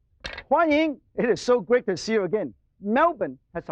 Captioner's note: in foreign language